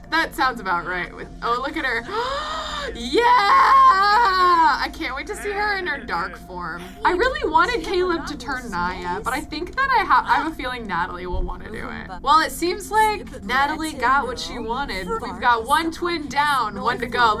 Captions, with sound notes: That sounds about right. Oh, look at her. (gasps) Yeah! I can't wait to see her in her dark form. I really wanted Caleb to turn Niya, but I think that I have a feeling Natalie will want to do it. Well, it seems like Natalie got what she wanted. We've got one twin down, one to go.